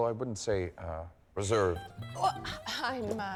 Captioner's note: chuckles